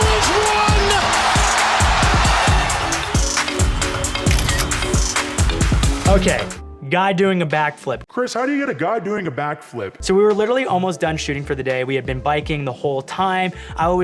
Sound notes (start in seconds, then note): 4.2 camera snapping